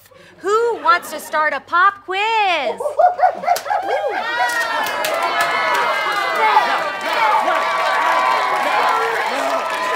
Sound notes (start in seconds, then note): 2.8 monkey sounds; 5.2 audience applause